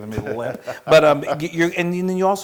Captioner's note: laugh